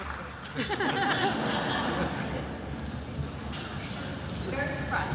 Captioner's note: attendees laughing